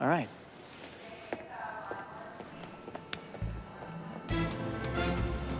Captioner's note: footstep